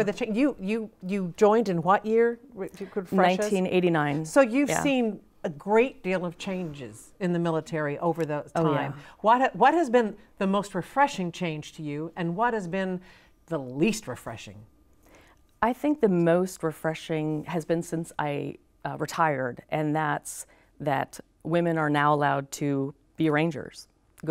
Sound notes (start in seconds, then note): 2.4 distant chattering